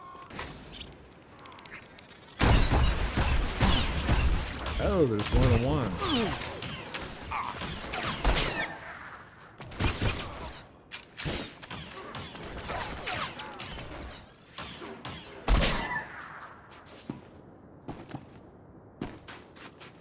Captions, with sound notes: Oh, there's one on one. [gunshots]